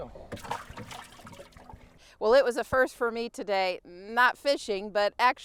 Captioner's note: splashing sound